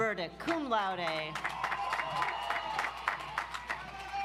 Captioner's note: audience applauds